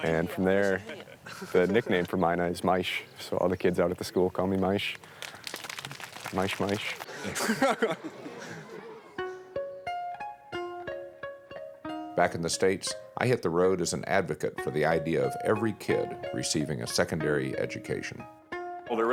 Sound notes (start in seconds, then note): 7.1 chuckles; 9.2 piano music